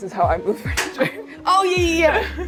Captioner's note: laughs